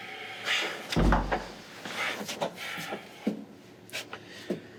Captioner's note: door